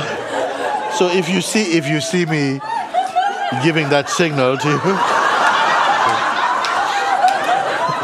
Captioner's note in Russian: смех